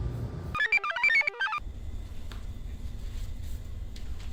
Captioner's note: computer chirps